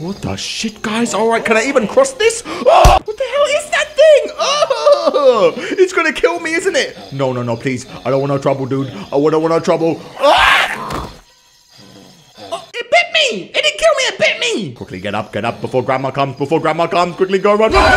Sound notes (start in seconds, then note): 2.5 screams; 4.9 ughhhh; 10.1 screams; 17.6 screams